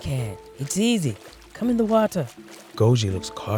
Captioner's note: water splashes